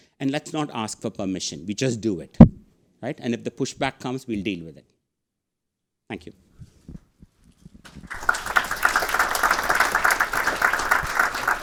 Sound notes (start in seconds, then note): 7.8 audience clapping